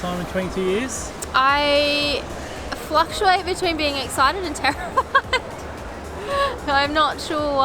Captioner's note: laughs nervously